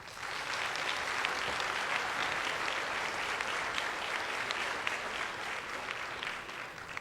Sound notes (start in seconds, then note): 1.8 applause